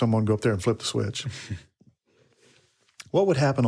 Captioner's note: speaker chuckles